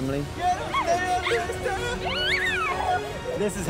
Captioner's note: playing, laughing